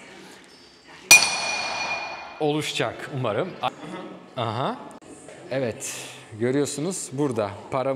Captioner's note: hammer hitting sound